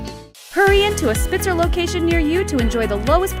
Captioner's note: voiceover